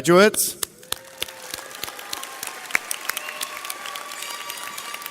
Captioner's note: audience applauds